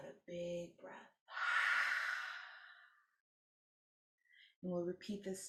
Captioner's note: exhaling deeply